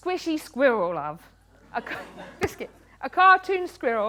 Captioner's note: laughter